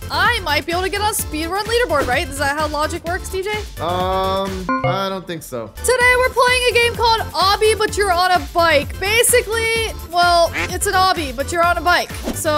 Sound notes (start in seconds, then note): none